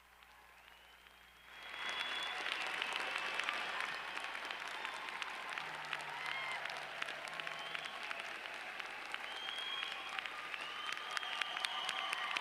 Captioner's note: applause